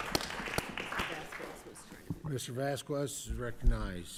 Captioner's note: applause